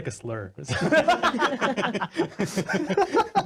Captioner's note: laughing